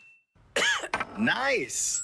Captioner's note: coughs